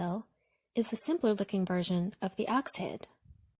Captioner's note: none